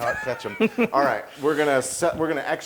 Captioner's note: laugh